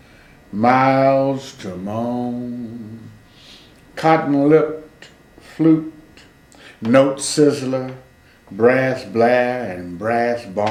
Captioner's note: employs a singing tone; employs a singing tone